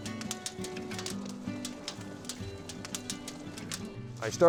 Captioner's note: gentle music continues; fire crackling